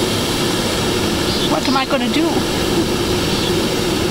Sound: laughs

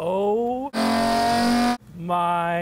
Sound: car engine revving

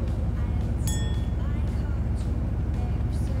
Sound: cellphone dings

